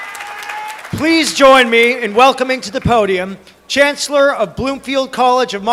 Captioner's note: cheering and applause